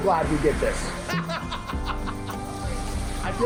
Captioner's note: laughter amongst heavy rain and wind